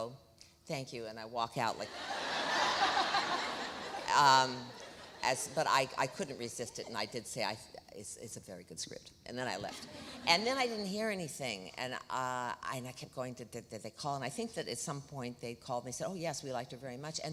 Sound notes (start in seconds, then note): 1.9 audience laughs